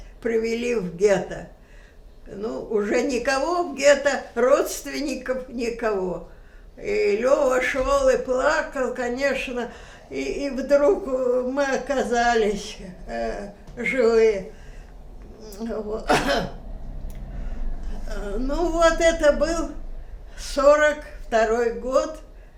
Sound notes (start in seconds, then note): 16.0 coughing